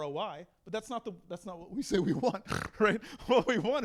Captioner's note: snorts